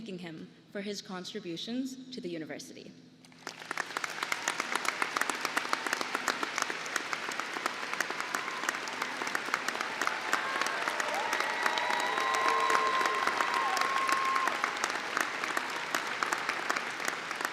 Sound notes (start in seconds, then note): 6.0 applause